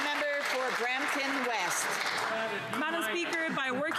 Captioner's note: some Applause